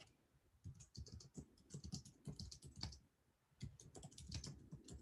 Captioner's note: keyboard clicking